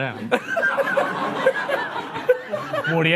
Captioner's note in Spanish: Risas